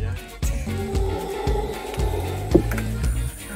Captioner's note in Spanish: Aullido de mono aullador